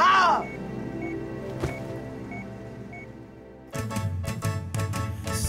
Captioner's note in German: Maschinenton